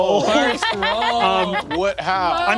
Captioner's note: laughing